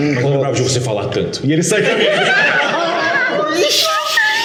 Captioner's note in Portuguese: Risadas